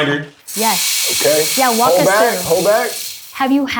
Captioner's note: espresso beans pour into machine